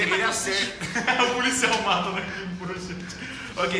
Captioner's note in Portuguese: Risadas